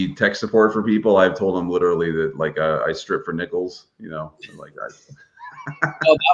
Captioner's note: laughs